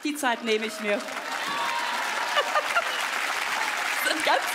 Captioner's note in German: Jubel, Applaus, sie lacht